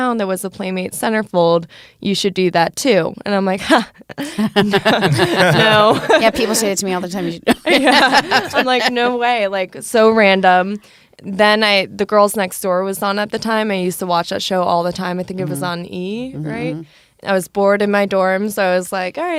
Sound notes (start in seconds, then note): 3.7 laughter